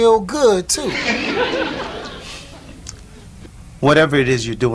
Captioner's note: audience laughs